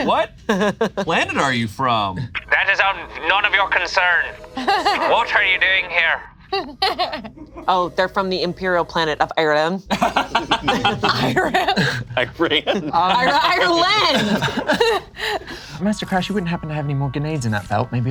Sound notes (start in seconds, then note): 6.5 laughs; 9.9 group laughs